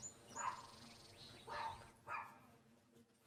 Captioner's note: barking